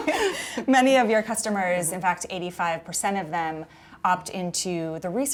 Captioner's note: laughter